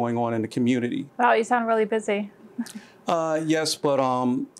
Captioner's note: chuckles